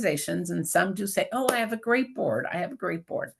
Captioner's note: claps hands